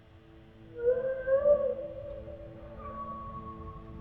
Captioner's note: whale bellows; whale whistles